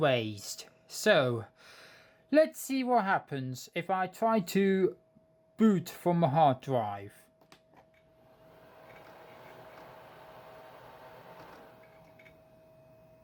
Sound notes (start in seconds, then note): 8.1 laptop powering up